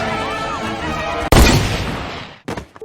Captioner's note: gunshot